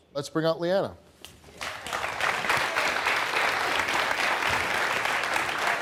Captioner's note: audience clapping